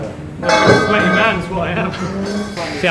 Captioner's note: laughing